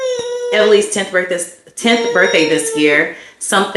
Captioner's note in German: jammert